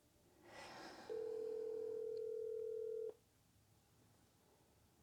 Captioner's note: phone dials